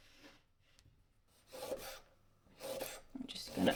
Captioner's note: chop chop on wooden surface